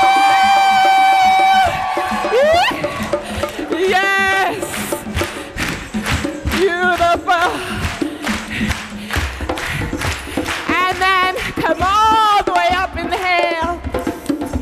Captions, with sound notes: Yes! [clapping to the beat] And then come all the way up inhale.